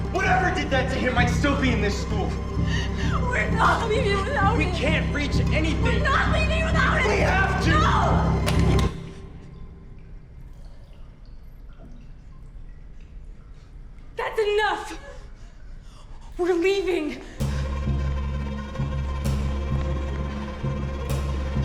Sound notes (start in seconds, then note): 8.4 fire alarm latch engages; 11.3 water drops; 17.4 slips, tense music